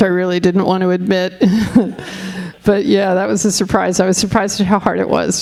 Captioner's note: all laughing